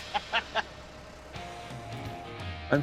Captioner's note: laughs